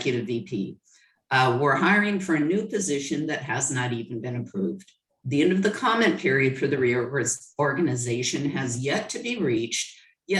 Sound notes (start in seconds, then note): none